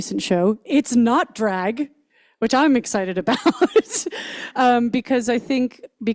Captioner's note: laughs